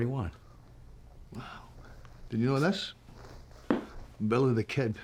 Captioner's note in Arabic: لهجة اسكتلندية